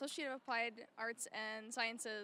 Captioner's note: none